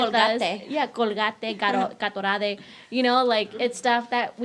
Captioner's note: speaking in foreign language